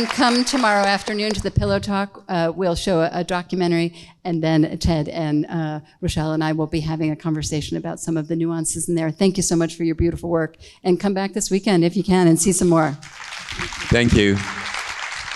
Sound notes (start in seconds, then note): 12.9 audience claps